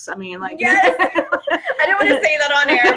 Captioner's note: laughs